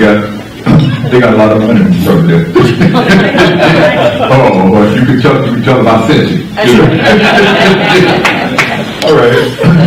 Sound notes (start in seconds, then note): 2.5 laughter; 6.8 laughter